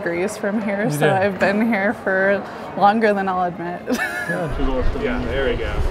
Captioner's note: laughs